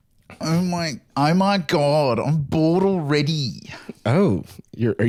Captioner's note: new Zealand accent